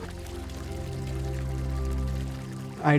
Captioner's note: water pouring